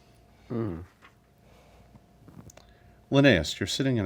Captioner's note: uncomfortable, questioning hums